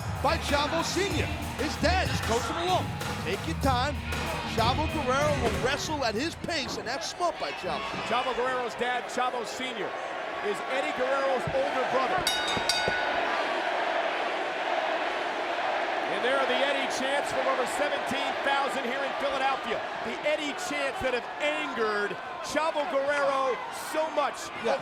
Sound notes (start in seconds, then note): 12.2 bell ringing; 13.6 spectators chanting